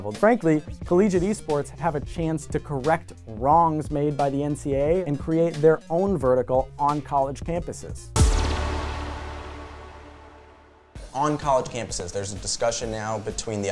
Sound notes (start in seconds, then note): 8.2 air whooshing